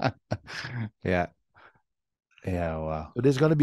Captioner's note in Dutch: lacht